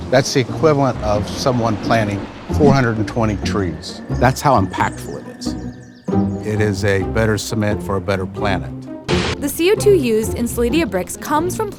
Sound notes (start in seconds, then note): 9.1 static